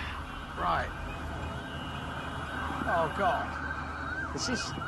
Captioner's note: siren blaring; siren blaring nearby